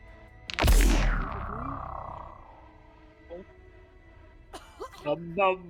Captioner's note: arc blast